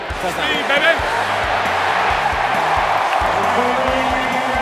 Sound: crowd roaring

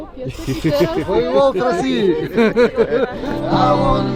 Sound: laughter; singing and guitar playing

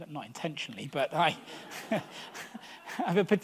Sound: audience laughs

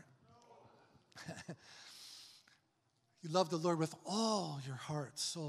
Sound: chuckles

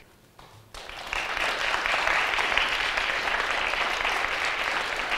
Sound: audience applauds

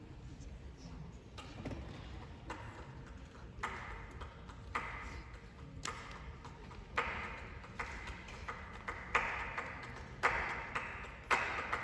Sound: voices

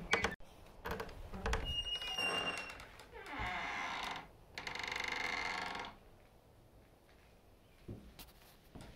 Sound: creaking sounds

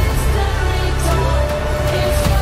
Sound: wolf howls

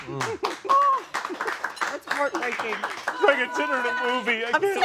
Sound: applause

